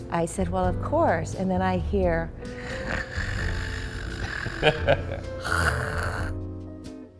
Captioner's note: sound of snore